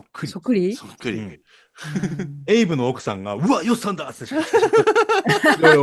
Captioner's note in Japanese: 笑い